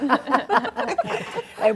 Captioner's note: laughter